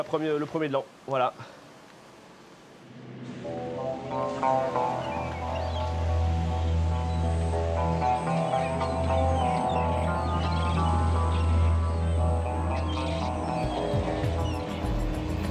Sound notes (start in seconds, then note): 0.1 speaking in foreign language; 3.5 boat motor buzzing; 5.3 birds chirping; 5.3 gentle music; 9.3 tractor rumbling; 12.7 lively music